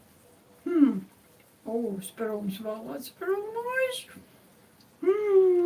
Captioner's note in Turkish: boğazını temizler